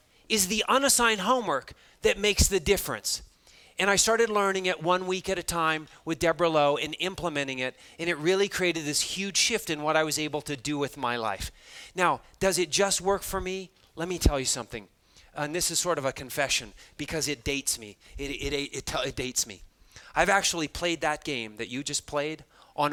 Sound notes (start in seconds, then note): none